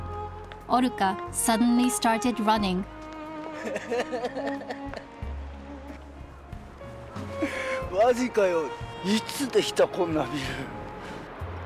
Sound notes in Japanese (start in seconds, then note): 3.5 笑い声